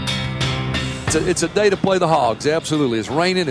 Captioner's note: voiceover